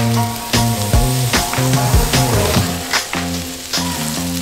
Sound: crackling sounds as makes breakfast

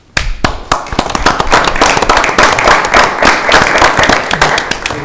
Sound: audience clapping

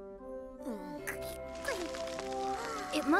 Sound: cicada grunts

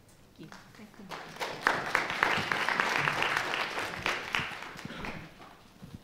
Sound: audience applauding

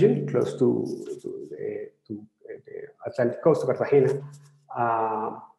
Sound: speaking in foreign language

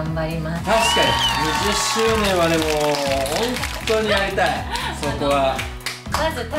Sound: applause

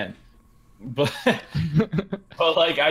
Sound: laughter

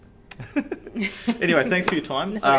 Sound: both chuckle

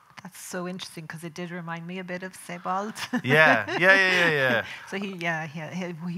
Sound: laughing

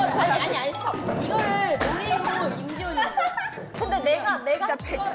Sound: failed to hold in her laugh

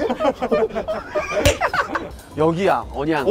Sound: slapping

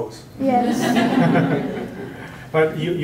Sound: laughter

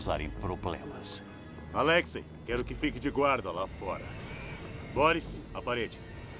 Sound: speaking russian

